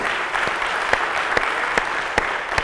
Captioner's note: applause